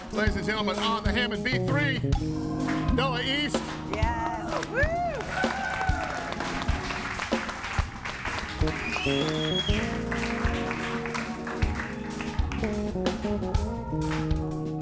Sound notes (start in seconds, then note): 5.6 audience cheering and applauding; 10.4 calm music